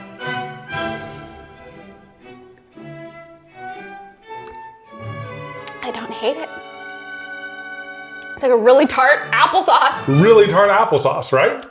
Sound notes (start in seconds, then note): 0.3 classical music intensifies; 4.4 mouth smacking